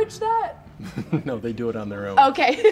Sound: laughs

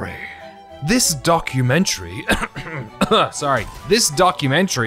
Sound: coughing; speaking normally

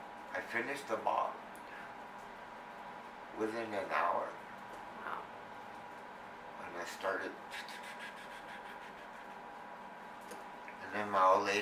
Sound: mimics pouring sounds

